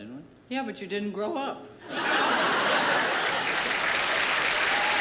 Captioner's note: laughter